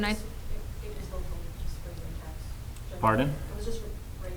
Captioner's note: woman speaking off microphone